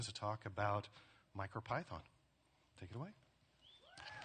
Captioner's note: applause and cheers